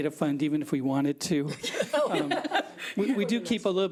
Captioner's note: board members laughing